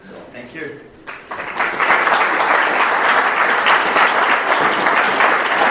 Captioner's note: audience applauds